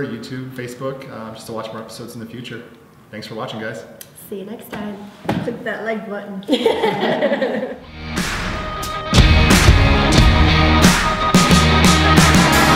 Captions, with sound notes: YouTube, Facebook, just watch more episodes in the future. Thanks for watching, guys. - See you next time. - Click that like button. (laughter) (rock music)